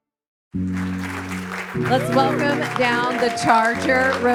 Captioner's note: audience applauding